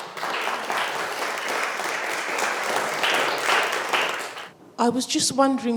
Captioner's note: audience clapping